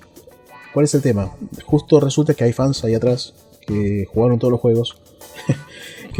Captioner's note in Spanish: risas